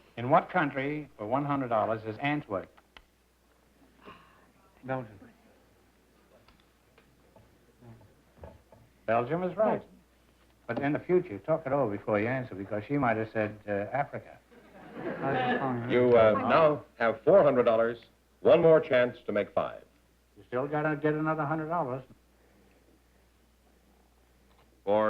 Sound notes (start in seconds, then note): 4.9 whispering; 14.6 chatter